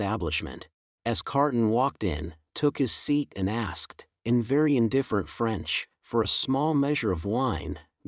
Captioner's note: in very indifferent French